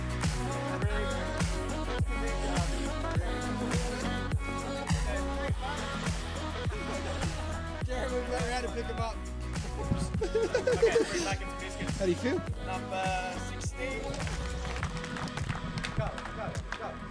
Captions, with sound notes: Thanks Mate!!! [LAUGHTER] How do ya feel?! F*** Yeah!!